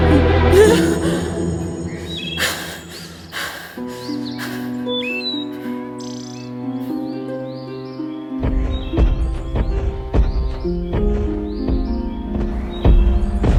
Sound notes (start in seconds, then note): 0.5 yelping, heavy breathing; 8.4 rumbling footsteps